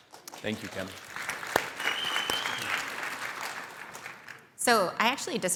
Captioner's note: audience applauding